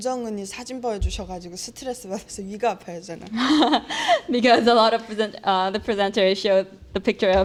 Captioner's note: laugh